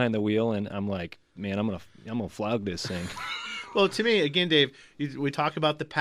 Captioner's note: laughs